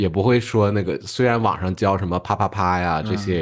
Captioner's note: sounds of sex